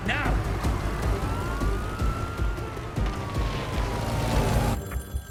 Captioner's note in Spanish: Sirena de la patrulla